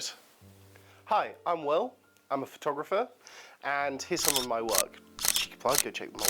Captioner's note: camera shutter clicks